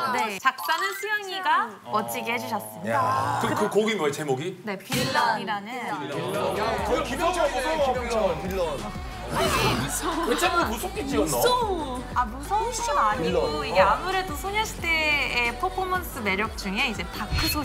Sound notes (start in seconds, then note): 9.3 growl